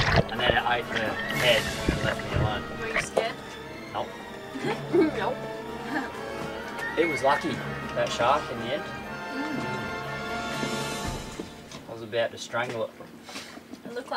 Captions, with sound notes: And then without the head, they left me alone. - Were you scared? - Nope. - Nope (laughing). - It was lucky, that shark, in the end. I was about to strangle it.